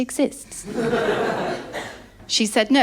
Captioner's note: laughter